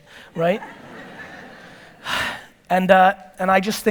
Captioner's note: audience laughter